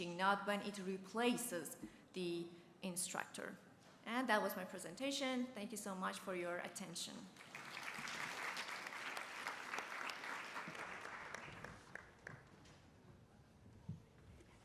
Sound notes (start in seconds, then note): 7.3 applause